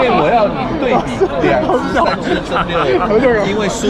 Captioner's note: laughing to death